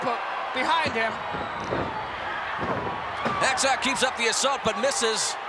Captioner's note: applause